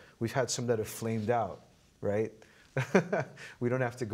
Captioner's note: laughing